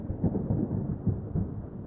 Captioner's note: thunder rumbling